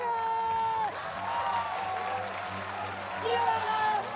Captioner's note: cheers, applause